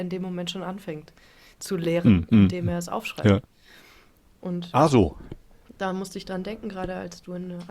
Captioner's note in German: schnauben